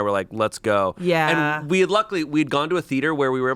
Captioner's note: none